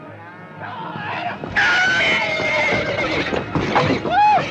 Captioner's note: neighing